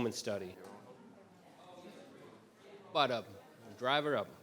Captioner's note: people chattering